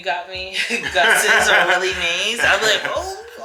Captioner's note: laugh